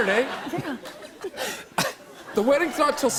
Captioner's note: laughter